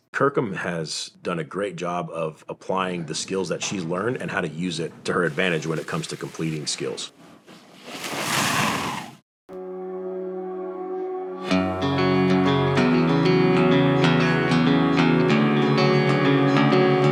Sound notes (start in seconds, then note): 7.8 water splashing; 9.7 dramatic twangy music